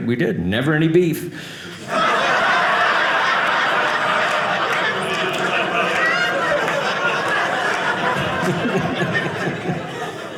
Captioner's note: audience laughing